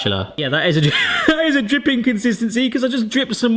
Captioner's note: laughs